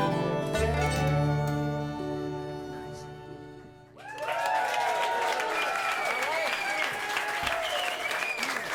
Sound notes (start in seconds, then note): 3.9 cheers and applause